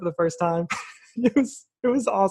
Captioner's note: laughs